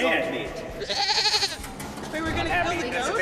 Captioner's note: goat bleats